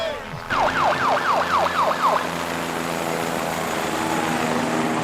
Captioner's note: helicopter flying and sirens blaring